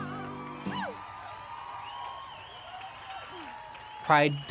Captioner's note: loud cheers & applause